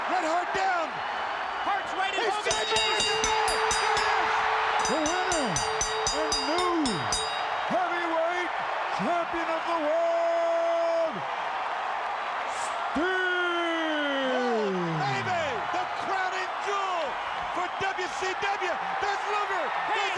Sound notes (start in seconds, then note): 2.4 bell ringing